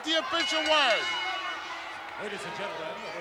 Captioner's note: bell dinging